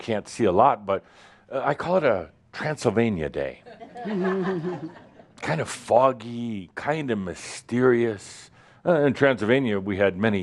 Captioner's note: more chuckles